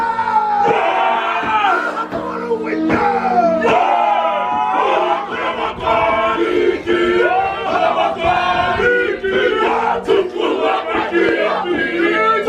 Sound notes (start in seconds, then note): 0.1 chanting continues; 6.9 performers continue chanting in foreign language